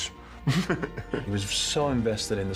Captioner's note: laughing